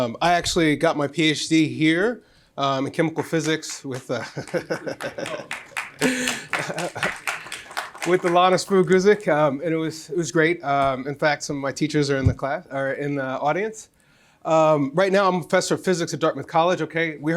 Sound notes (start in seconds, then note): 3.1 applause; 3.9 laughs